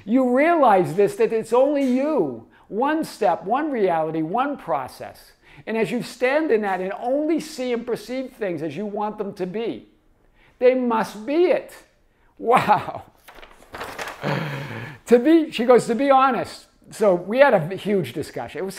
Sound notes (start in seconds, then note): 13.1 chuckles; 13.1 page shuffles